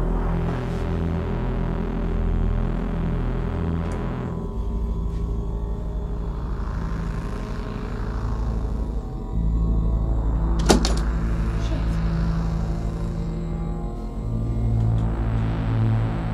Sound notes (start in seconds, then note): 10.7 click; 12.5 suspenseful music